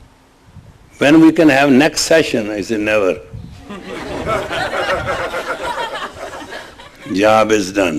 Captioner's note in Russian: смех